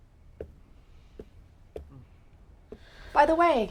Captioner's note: heels clacking